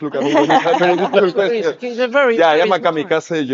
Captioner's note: speakers chattering and laughing